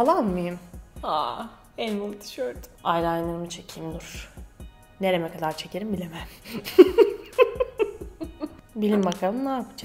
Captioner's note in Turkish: Gülüyor